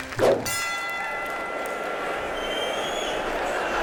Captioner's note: bell rings